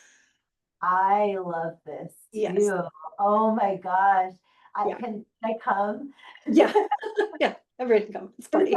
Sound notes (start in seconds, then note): 6.6 laughing